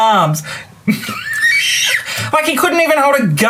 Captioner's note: laughs